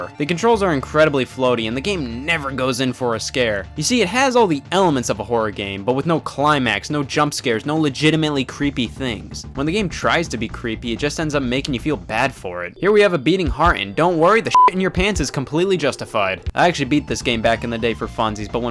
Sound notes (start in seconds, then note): 14.4 beep